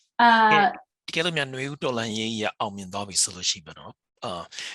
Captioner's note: speaking burmese